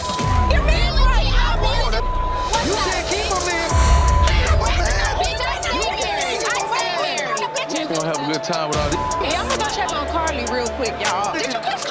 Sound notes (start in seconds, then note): 1.3 beep; 4.4 people yelling at once; 8.8 beep